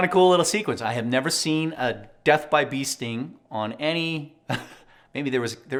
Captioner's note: laughs